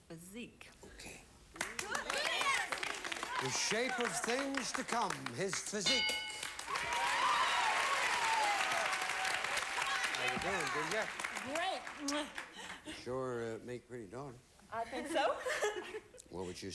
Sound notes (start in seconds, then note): 6.3 audience applauding